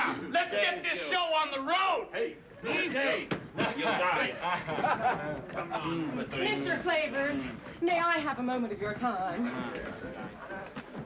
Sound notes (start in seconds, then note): 3.0 Все болтают без умолку